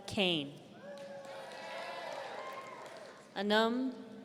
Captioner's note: audience cheering